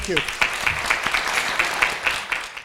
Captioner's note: applause